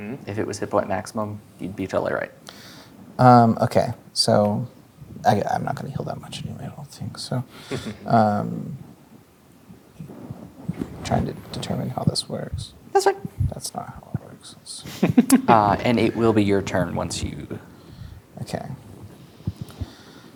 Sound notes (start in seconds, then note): 7.7 chuckling; 14.8 laughing